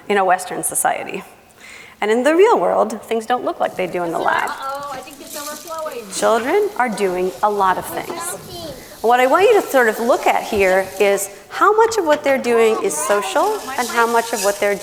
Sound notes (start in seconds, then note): 8.4 children chattering